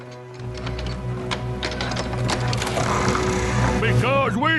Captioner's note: rattling wood